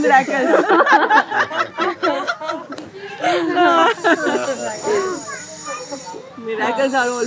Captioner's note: Lachen